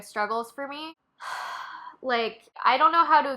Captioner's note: sigh